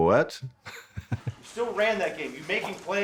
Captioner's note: chuckles